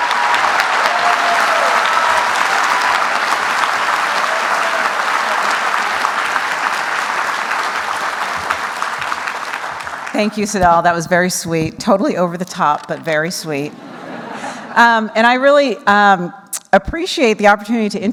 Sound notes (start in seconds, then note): 0.1 applause; 13.7 laughter